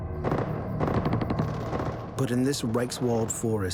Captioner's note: distant gunfire